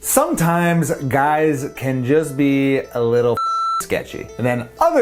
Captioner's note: beep